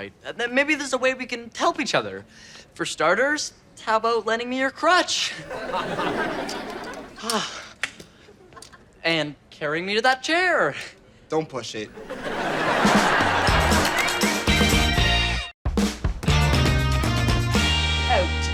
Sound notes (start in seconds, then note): 5.4 audience laughter; 11.9 audience laughter; 15.5 upbeat music